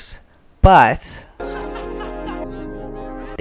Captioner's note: kids laughing